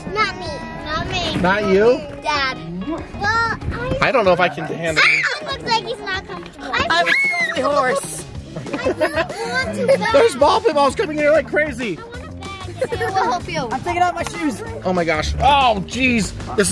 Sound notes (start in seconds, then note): 5.0 screaming; 8.7 laughing